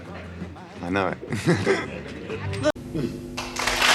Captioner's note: laughs